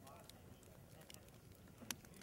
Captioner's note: fire crackles